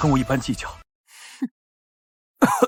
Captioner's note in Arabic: يضحك ساخرًا